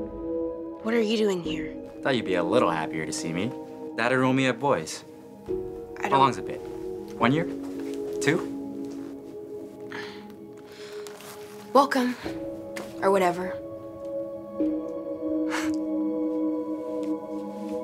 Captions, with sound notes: What are you doing here? - I thought you'd be a little happier to see me. Dad enrolled me at Boys. How long has it been? One year, two? - Welcome, or whatever. (Nick laughs)